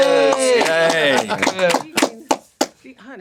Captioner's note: cheering, applause